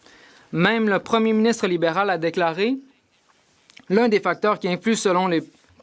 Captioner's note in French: voix de l'interprète